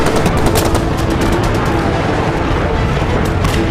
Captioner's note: guns firing